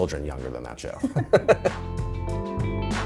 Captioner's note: chuckling